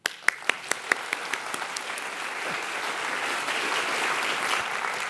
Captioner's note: audience applauding; facilitator applauding